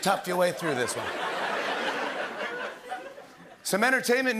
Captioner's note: laughter